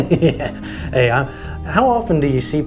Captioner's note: laughs